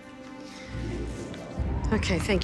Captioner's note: machine whirring